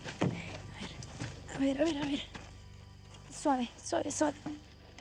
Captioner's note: speaking spanish